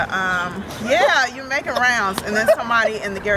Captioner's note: laughter